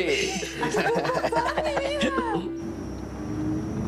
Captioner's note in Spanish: Risas